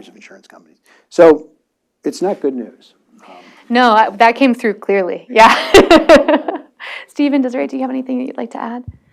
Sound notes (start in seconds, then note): 5.3 laughing